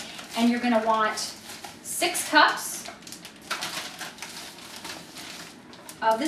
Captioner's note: bag crinkles